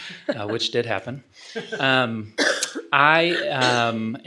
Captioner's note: laughing